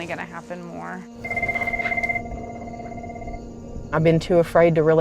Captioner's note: phone ringing